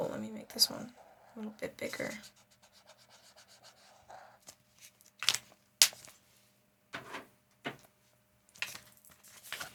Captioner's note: silence